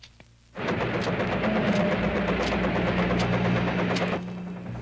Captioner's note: machine whirring